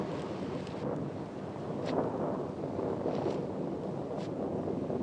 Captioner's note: thunder continues rumbling